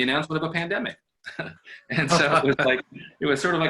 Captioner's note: laughter